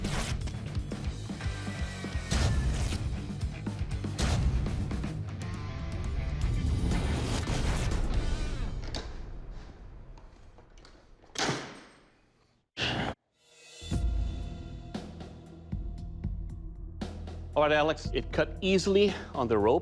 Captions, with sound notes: (WHISPERS) Shit. All right, Alex it cut easily on the rope.